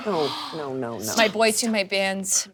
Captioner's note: gasping